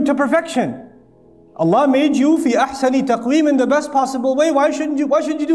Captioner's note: Arabic